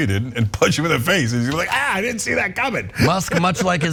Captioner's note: laugh